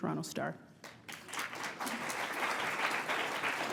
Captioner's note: applause